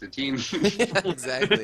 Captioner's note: laughs